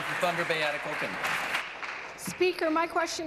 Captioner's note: applause